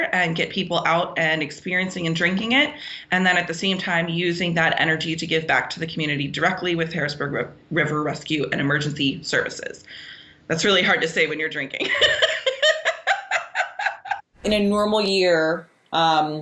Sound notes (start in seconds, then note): 11.8 laughs